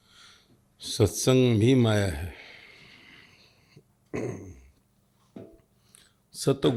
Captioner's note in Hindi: गला साफ़ करने की आवाज़